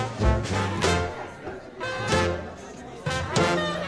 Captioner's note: guests chattering; lively music continues